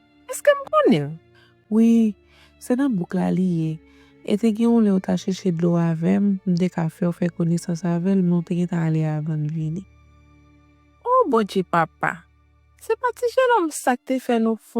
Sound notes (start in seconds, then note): none